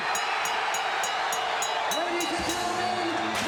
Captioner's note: bell ringing; crowd cheering